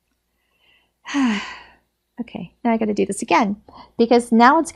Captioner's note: sighs